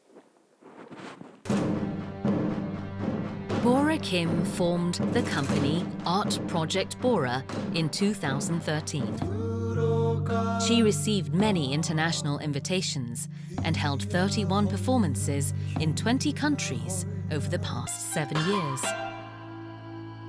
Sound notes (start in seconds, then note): 3.7 voiceover